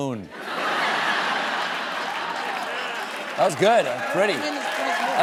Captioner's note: laughter